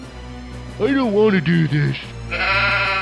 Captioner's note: sheep goes Baaa